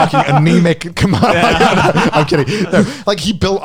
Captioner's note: laughs